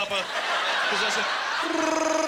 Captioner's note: Imitating Wookie gurgling